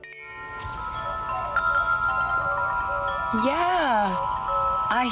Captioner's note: chiming